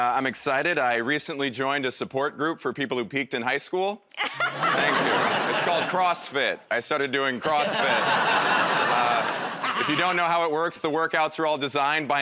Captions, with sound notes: -I'm excited -- I recently joined a support group for people who peaked in high school. -[ Laughs ] -Thank you. It's called CrossFit. I started doing CrossFit. [ Laughter ] If you don't know how it works, the workouts are all designed